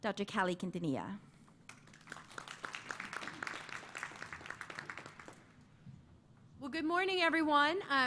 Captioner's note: applause